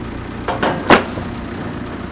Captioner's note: wood thuds; engine revving continues